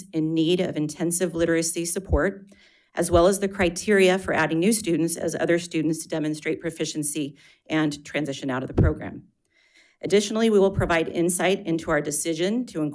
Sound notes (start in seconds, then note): none